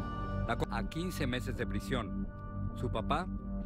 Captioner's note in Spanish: habla en ingés